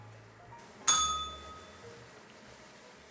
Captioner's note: bell rings